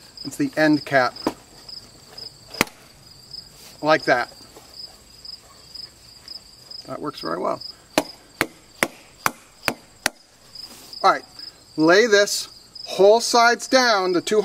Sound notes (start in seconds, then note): 2.5 smacking sound; 8.3 loud smacking sounds